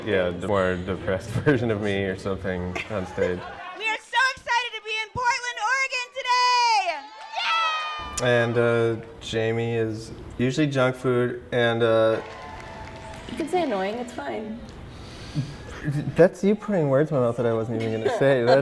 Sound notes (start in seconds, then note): 7.0 audience applause